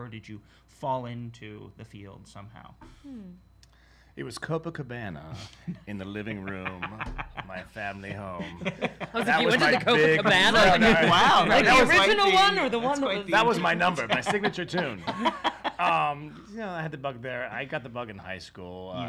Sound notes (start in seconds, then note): 8.4 laughing; 15.3 all laughing